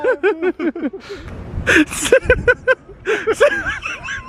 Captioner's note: laughing